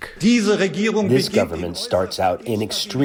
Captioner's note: through translator